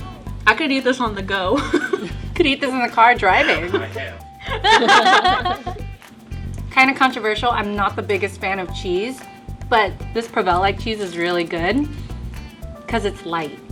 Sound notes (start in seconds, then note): 4.4 both laugh